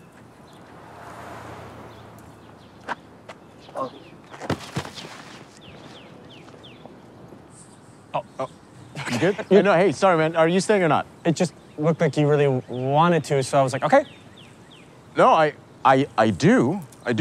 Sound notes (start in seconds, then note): 0.0 cars rumble; 4.4 thuds